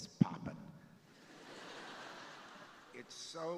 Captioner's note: crowd laughing